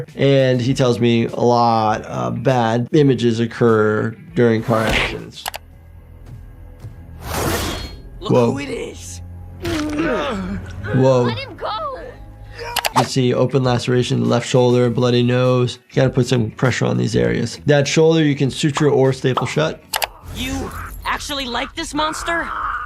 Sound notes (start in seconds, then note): 5.4 mouse clicking; 7.4 door tearing; 9.6 Dr. Elias Brandyworth groaning; 12.6 Brandyworth yelling